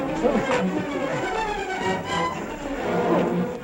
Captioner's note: shouting